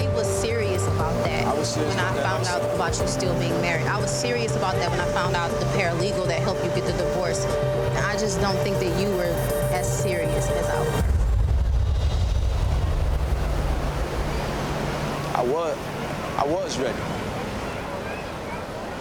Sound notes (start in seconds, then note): 10.9 tense music; 13.1 waves crushing